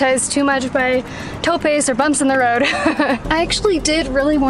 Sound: speaking in Spanish

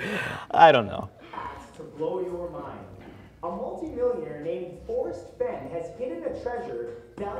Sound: YouTube video talking

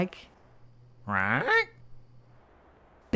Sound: squawking curiously

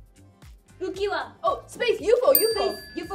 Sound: speaking Korean

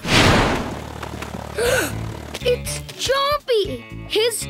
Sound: gasps

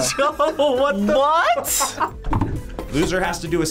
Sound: both laugh

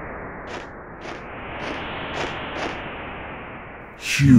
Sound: footsteps

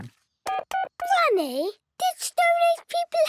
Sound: dial tones beeping

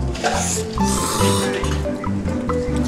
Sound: slurp slurp

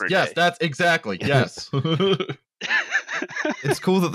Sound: laughter

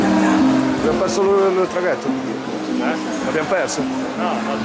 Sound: Italian

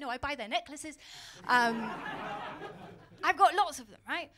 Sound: laughter

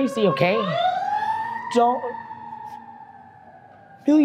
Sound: siren wailing

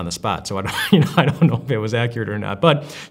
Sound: laughs

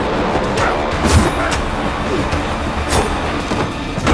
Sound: men grunt

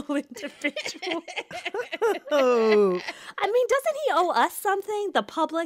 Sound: laughter

